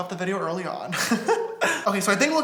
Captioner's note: laughs